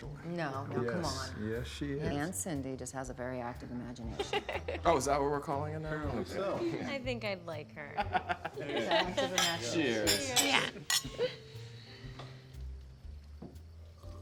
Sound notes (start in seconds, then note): 4.2 Candace laughs; 8.6 Bill laughs; 11.1 soft jazzy music